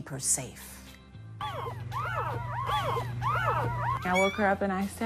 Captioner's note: puppies whining